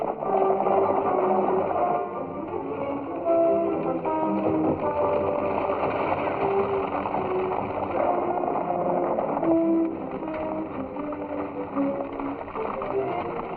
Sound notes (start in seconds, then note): 9.4 stagecoach rattling